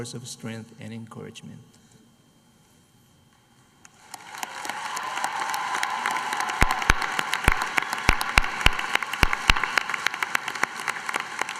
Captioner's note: applause